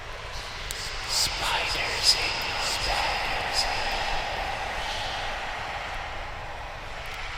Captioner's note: sinister Whisper